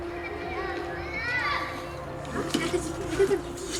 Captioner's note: children exclaim